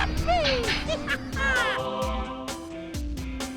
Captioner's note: laughing